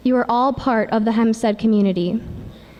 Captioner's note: none